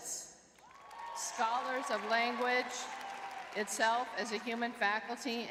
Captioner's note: crowd cheering